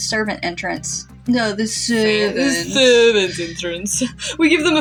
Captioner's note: mockingly Fancy; mocking